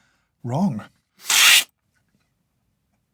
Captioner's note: slurp